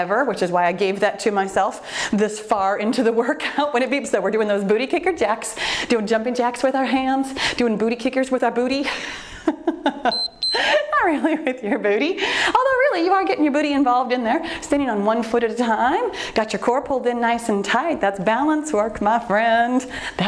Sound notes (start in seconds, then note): 9.4 laughs; 10.0 timer beeps